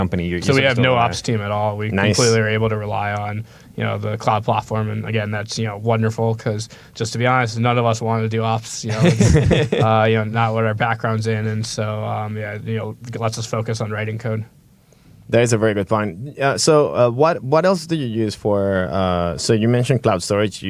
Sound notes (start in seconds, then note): 8.8 laughter